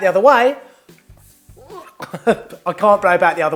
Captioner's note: laughing